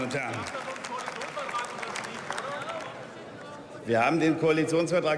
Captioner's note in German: Beifall und Zwischenrufe